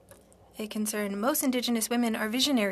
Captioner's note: speaking French